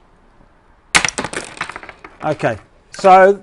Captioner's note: pop